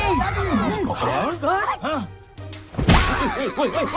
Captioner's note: questioning grunts; yelps